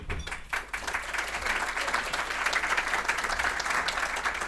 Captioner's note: audience applauding